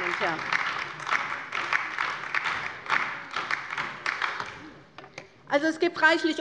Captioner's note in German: Beifall bei der LINKEN